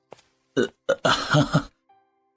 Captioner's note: non-verbal chuckle